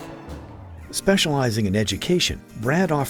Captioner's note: voiceover